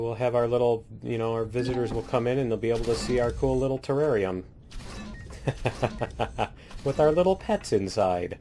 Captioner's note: laughs